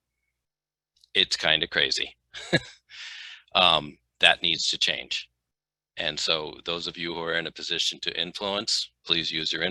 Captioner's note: laughter